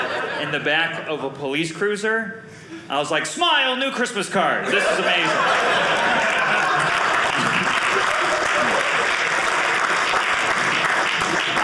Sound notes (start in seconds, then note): 4.6 audience laughing; 7.1 audience applauding